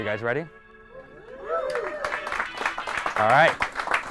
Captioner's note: cheers and applause